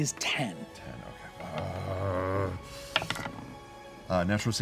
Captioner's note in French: grogne